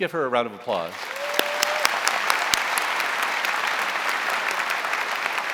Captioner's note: audience applauding